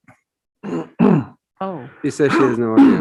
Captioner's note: clearing throat